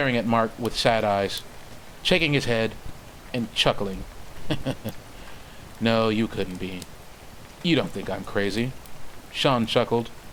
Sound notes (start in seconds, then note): 4.3 chuckles